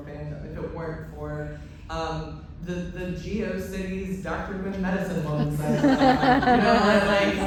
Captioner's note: laughter